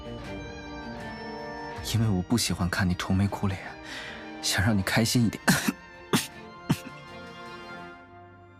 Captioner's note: coughs